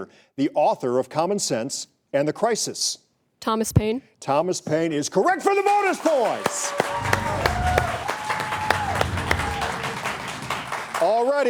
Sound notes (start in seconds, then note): 5.4 applauds; 7.2 audience applauds; 7.2 audience cheers